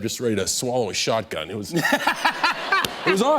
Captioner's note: laughter